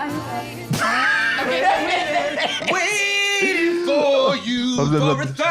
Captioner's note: laughs